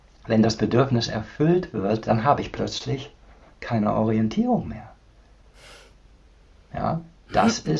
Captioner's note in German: schnauben